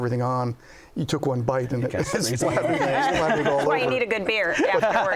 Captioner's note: laughs